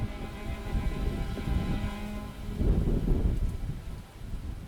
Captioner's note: wind, rain